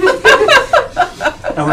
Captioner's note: all laughing